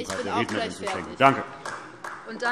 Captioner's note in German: Beifall AfD